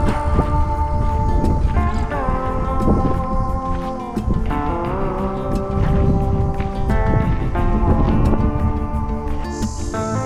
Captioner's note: wind blowing